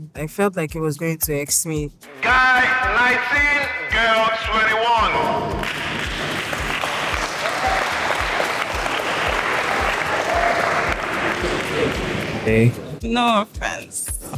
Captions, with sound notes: I felt like it was going to X me. Guy 19, girl 21. [APPLAUSE] Hey. No offence.